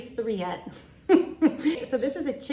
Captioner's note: laughs